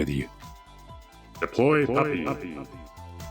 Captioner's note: echoing voice